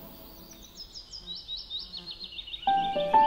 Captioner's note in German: Vogelgezwitscher; Perlende Klaviermusik